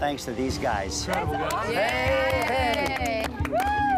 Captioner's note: cheers and applause